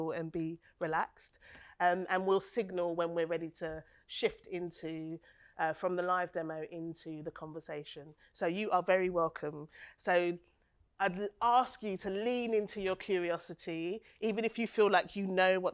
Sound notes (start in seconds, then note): none